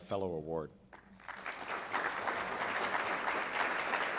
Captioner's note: applause